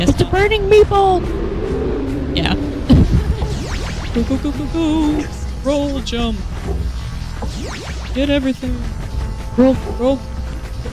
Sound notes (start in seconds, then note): 2.8 laughter